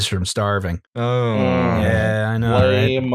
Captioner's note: groan